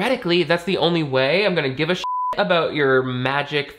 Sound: beep

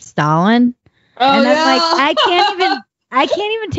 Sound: laughs

